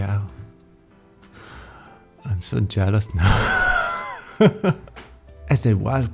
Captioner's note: sigh